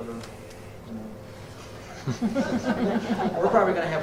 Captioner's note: laughter